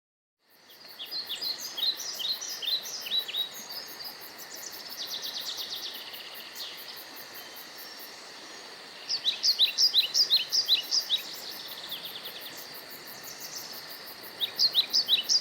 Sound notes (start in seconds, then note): 0.9 birds chirping